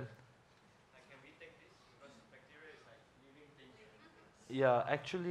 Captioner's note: faintly speaking